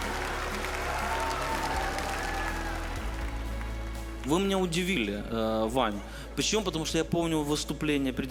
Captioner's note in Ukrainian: оплески